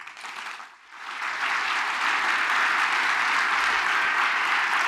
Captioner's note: audience applauds